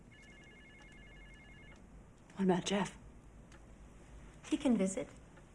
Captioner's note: phone rings